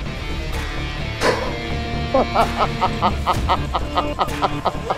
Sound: laughing

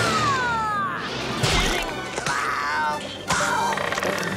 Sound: grunting

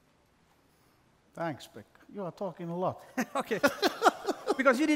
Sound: laughs

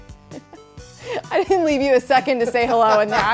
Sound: laughs

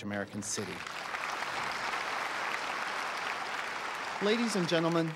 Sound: applause

